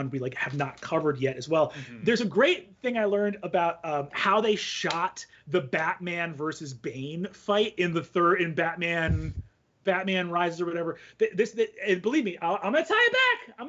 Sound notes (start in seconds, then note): none